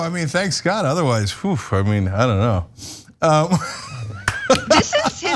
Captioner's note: laugh